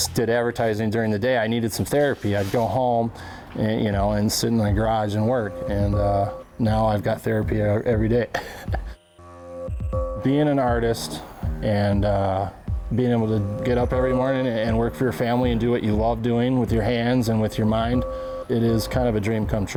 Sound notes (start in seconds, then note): 8.2 laughs